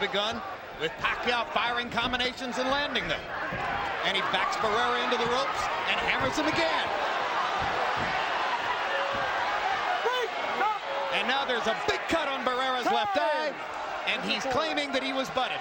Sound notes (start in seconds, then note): none